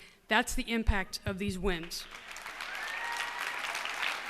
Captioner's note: cheers and applause